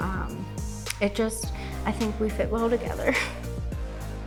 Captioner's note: laughs